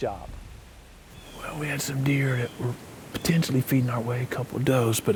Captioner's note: whispering